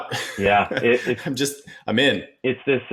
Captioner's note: chuckles